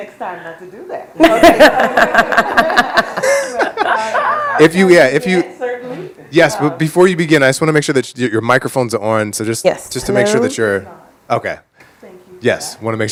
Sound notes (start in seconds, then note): 1.2 all laughing